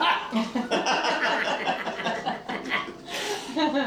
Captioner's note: all laughing